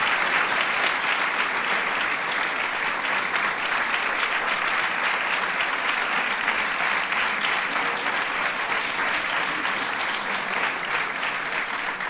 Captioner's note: applause